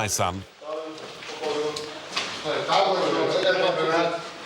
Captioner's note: Arabic spoken audio